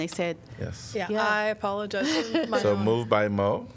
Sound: laughter

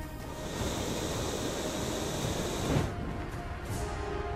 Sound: fire roaring

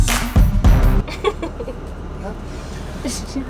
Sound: laughing

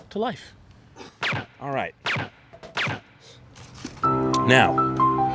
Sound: silenced gunshots booming

